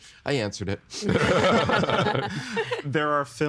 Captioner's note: all laughing